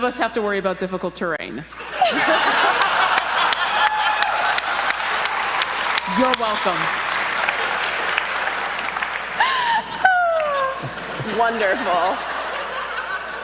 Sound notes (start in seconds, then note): 1.7 laughter and clapping erupts